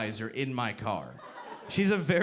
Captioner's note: audience laughing